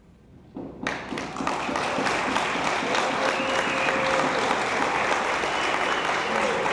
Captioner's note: attendees applauding; attendees cheering